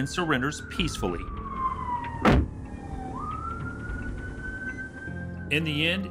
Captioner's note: sirens wailing